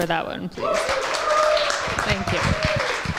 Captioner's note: applause